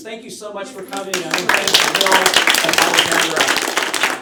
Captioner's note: applause